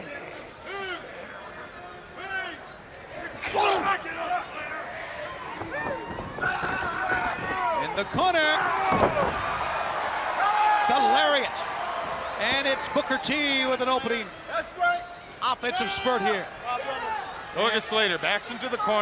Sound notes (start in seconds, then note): 0.1 crowd chatter; 10.1 crowd cheering